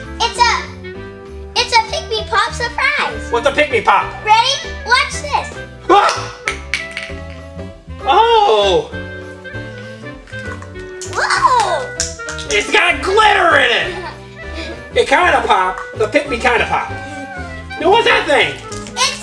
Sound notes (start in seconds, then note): 6.6 lid clattering